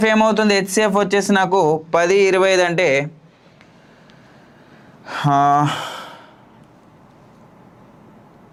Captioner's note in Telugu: నిట్టూర్పులు